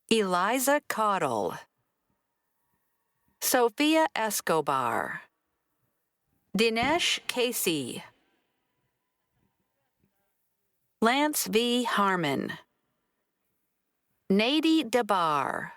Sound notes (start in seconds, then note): none